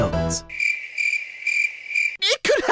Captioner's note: crickets